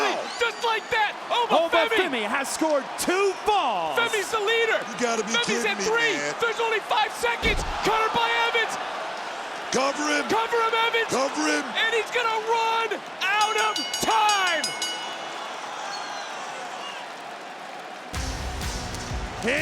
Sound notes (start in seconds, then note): 13.3 bell rings; 17.5 crowd cheers